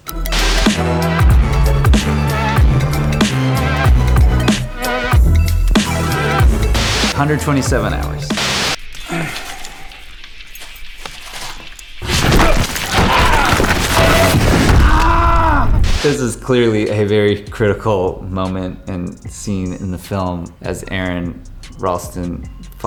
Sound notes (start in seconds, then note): 0.0 screen buzzes; 0.0 upbeat trap music; 8.0 screen buzzes; 9.1 Aron grunts; 12.0 rock rumbles; 14.7 Aron screams; 14.7 rock thuds